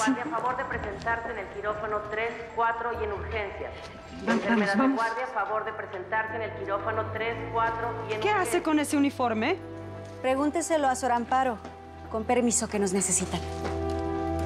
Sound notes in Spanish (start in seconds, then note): 0.0 voz en altoparlantes; 6.3 se repite mensaje en altavoz